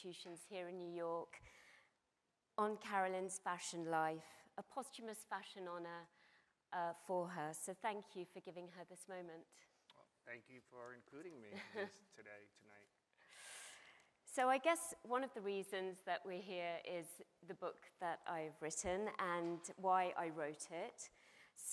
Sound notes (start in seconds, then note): 11.4 chuckles